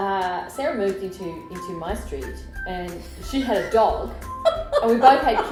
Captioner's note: laughter